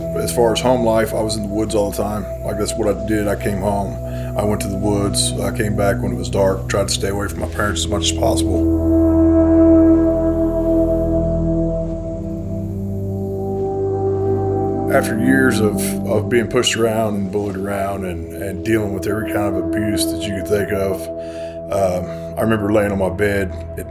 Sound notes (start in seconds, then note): 10.2 birds chirping